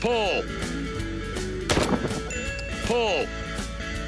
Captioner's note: bell ding; gun shots